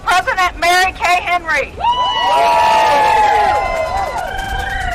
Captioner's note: applause